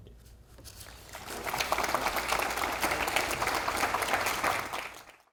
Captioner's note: audience applauding